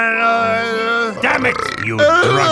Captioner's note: burp